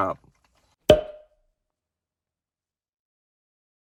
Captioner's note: cork popping